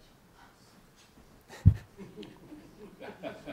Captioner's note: laughter